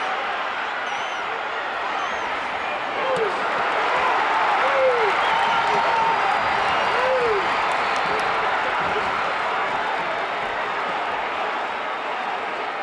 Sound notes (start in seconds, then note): 3.4 audience cheering